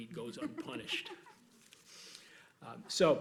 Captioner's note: laughs